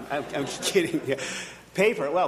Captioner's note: audience laughing